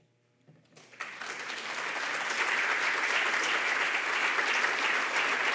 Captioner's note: audience applauding